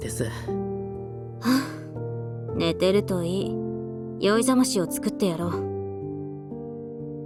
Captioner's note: sigh